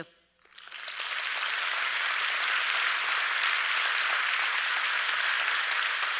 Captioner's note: applause